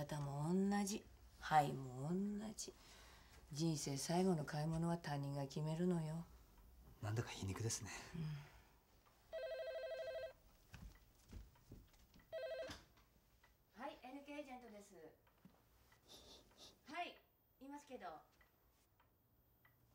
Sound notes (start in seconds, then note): 9.3 telephone rings